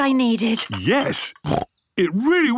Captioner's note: snorts